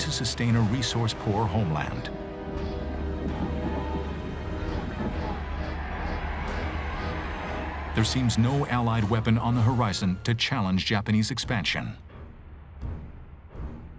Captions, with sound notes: a resource poor homeland. [ominous music] [cheering] There seems no Allied weapon on the horizon to challenge Japanese expansion.